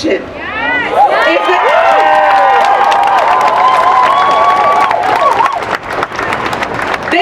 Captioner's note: applause